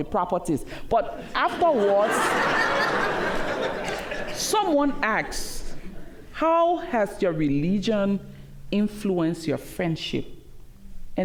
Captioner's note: laughter